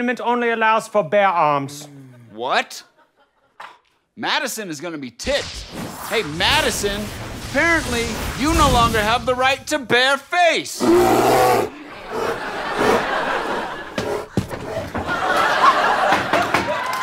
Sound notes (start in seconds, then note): 10.8 growling; 11.6 audience laughing; 16.8 gavel pounding